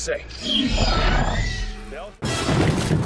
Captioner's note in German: Screech